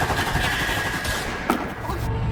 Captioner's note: gunshot